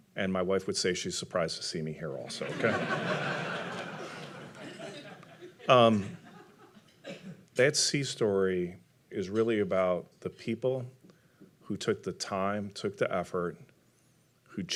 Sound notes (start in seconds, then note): 2.3 audience laughing